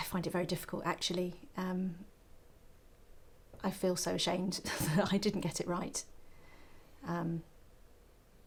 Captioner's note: laugh